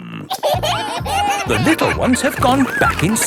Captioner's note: kids giggling